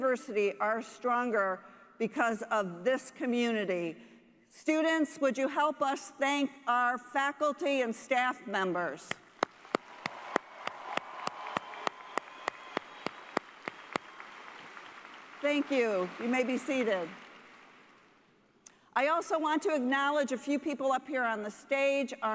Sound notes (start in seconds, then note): 13.8 cheers and applause